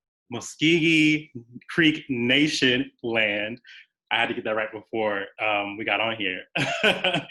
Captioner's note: laughs